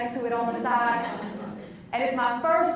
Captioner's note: laughs